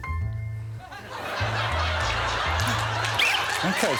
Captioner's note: whistle blows; laughter